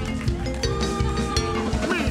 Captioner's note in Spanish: Aplausos; Gritos